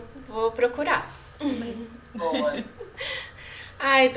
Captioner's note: quietly